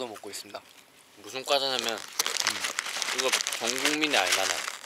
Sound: rustling

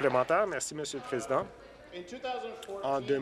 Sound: applause

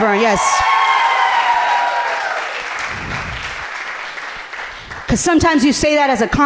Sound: audience cheering loudly

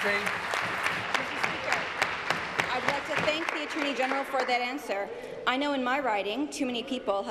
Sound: applause

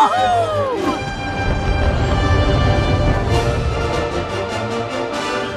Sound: fireworks exploding

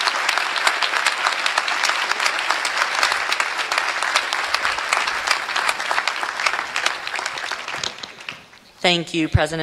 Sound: applause

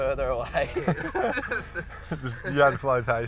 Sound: both laugh

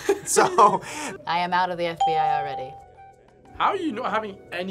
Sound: React laughs; bell rings

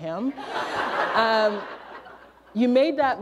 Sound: laughter

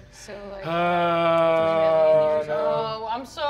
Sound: wailing

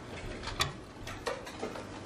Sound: door closing

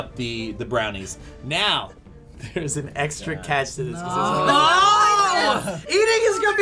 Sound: all groaning

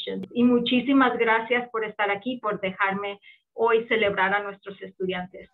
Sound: speaking in foreign language

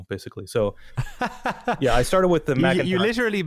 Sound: laughs

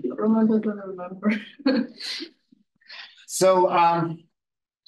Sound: audio distorting

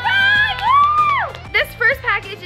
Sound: clapping

